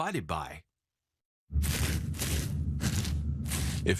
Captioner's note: scratching sounds